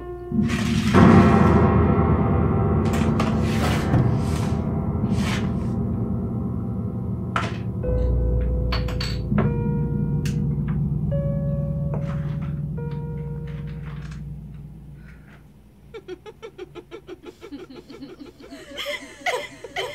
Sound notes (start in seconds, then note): 0.3 tupperware slides across the floor, music intensifies; 12.7 bed creaking; 15.7 echoing, distorted laughter